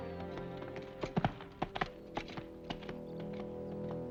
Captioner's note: hooves trotting; ominous music